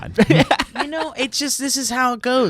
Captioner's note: laughing